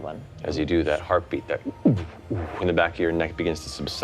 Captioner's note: imitates heart beating